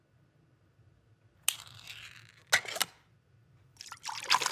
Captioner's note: can scrapes; can clacks; liquid fizzing